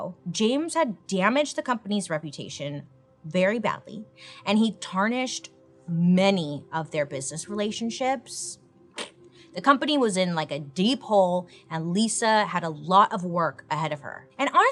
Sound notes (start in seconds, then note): 9.3 blows raspberries